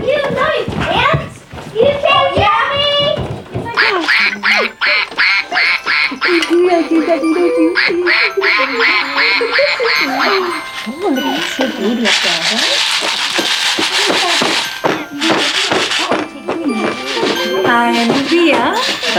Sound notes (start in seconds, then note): 3.7 duck quacking; 5.6 chattering; 7.7 duck quacking; 11.0 rattling; 12.1 pounding